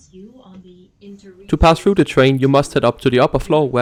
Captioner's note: ambient Announcement